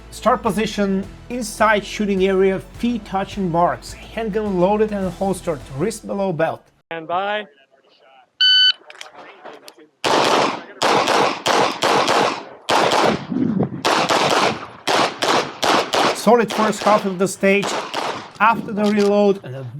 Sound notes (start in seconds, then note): 8.4 machine beeping; 10.0 gunshots banging